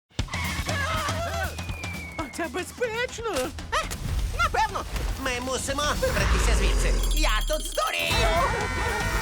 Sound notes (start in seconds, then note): 6.1 growling; 8.1 both screaming